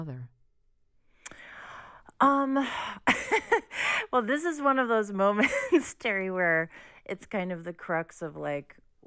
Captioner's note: laughter